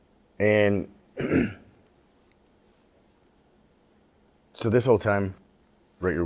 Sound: clears throat

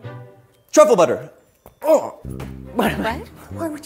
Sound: groans

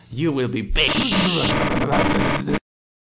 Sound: getting tased sounds

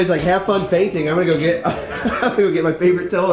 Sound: laughs

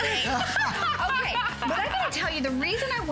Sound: laughter

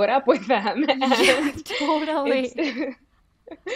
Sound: both laugh

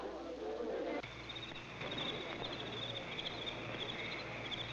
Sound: insects chirping

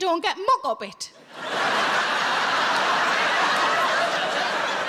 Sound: audience laughing

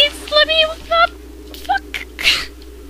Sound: laughs

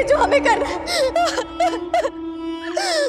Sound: cries

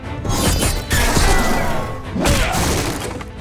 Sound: thudding

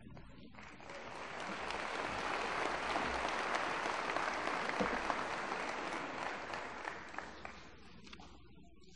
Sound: applause

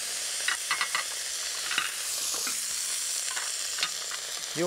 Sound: vegetables searing

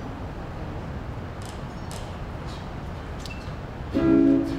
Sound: none

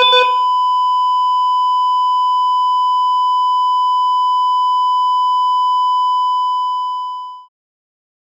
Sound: continuous tone

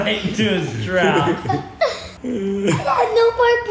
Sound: laughs; laughing

